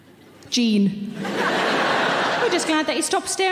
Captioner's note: audience laughing